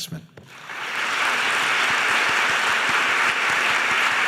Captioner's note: audience applauding